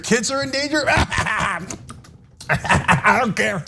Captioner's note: laugh